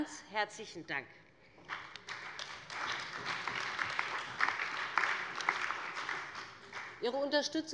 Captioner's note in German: Beifall bei Abgeordneten des BÜNDNISSES 90/DIE GRÜNEN, der CDU und der LINKEN